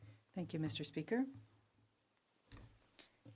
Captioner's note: speaking in French